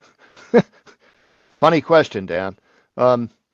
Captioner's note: chuckles